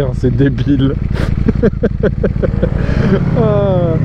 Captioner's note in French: rire